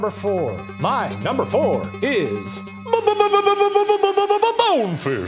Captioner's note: stuttering